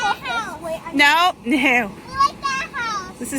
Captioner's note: laughs